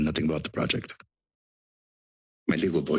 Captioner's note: pause